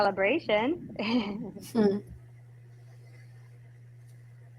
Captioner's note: laughing